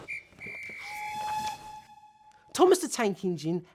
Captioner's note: whistle blowing